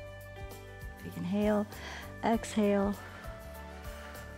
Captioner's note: exhales; inhales